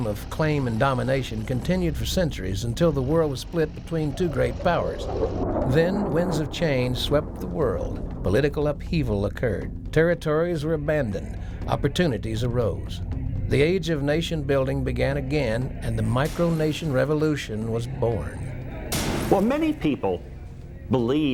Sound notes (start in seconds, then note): 7.0 jets roaring